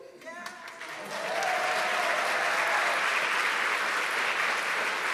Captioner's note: everyone cheering